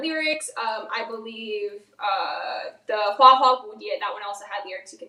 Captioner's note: speaks in foreign language